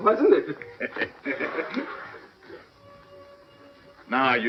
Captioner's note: laughing